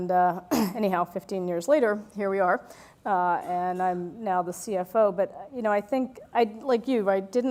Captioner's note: cough